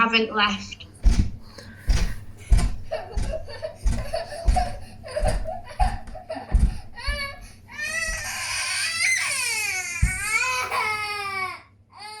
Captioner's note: child cries